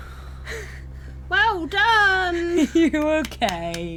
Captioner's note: claps